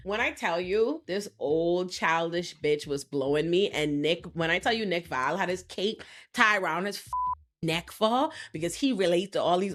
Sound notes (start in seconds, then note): 7.1 beep